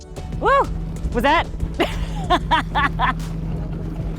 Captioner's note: she laughs